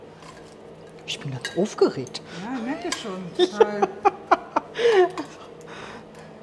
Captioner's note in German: lacht